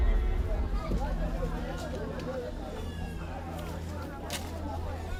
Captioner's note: chatter